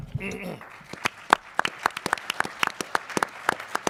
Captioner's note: audience applauds